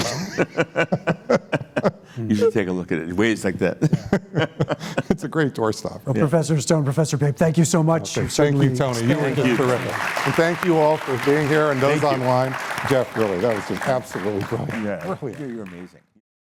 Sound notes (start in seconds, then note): 0.0 laughter; 10.1 applause